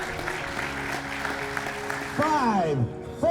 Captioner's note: audience applauding